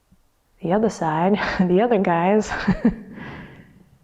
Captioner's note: laughs